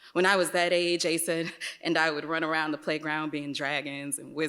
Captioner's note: none